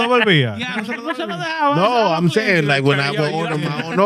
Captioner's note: speaking Foreign Language